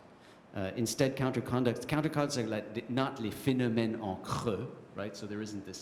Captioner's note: french